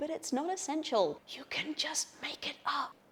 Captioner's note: whispering